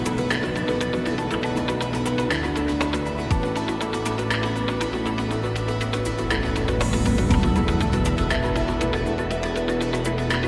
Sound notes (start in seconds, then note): 6.0 air whooshing